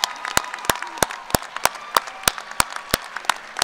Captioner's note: applause